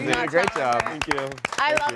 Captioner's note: all clap